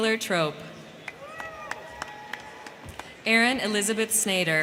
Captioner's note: crowd cheering; crowd clapping